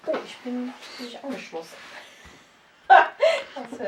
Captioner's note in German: lacht